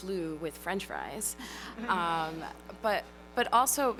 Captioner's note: laughter